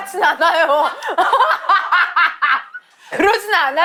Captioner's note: laughs hysterically